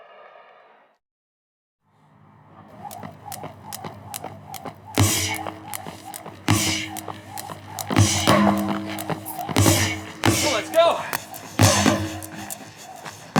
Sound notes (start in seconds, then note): 1.1 pounding; 1.1 rhythmic whooshing